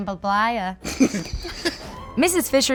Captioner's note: laughing